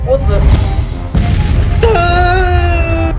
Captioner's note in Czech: hlasité bouchnutí; Leonard křičí